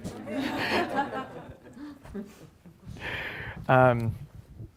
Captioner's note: audience laughs